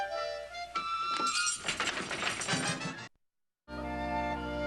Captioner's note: door rattling